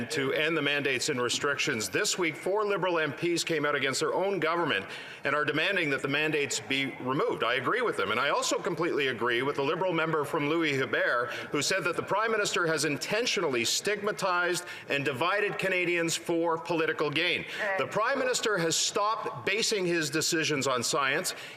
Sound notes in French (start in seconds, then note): 3.8 voix de l'interprète